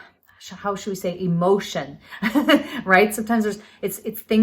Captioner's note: laughs